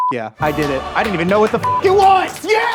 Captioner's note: hands clapping; triumphant music; laughing